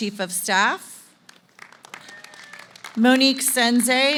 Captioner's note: applause